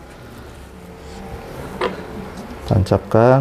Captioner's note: damper noise